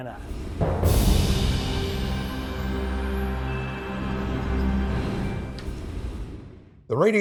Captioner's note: wind whooshing; soft music